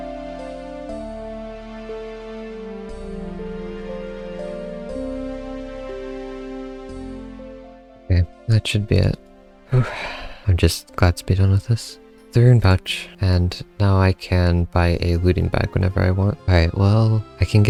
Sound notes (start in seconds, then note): 9.7 sigh